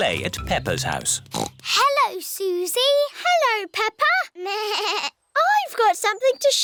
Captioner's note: snorts; bleats